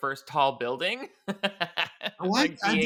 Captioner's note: chuckles